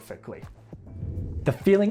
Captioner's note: air whooshes